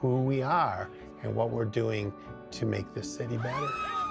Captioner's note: siren wails